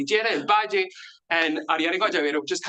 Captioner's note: speaks in Spanish